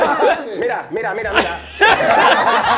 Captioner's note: speaking in a foreign language; laughing